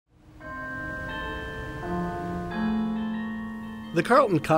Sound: church bells chiming

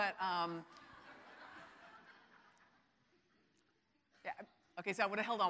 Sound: audience laughing

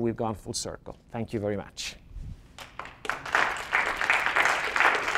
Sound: audience applauds

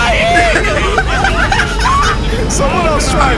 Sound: laughing

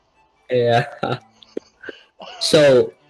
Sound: laughs

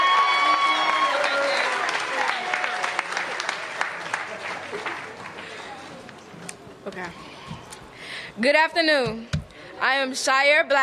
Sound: applause

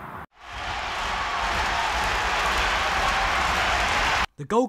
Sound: generic football chants

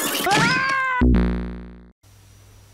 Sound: Sonic loses a life

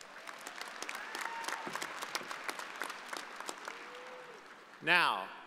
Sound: audience applauding

